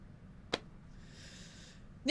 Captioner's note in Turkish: İç çekme sesi